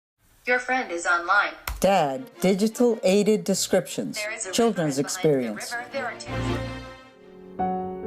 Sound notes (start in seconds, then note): 0.3 computer female voice; 7.8 piano music